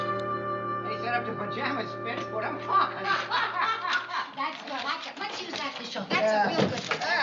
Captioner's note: approaching voices